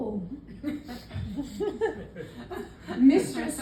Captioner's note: laughter